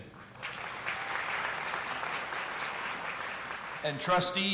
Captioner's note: audience applauding